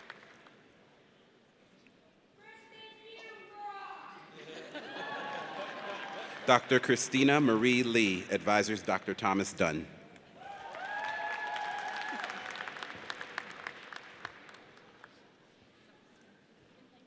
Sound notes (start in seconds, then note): 4.3 audience laughs; 10.4 audience cheers